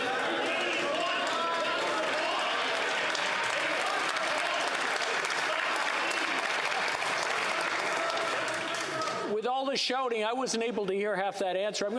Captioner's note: yelling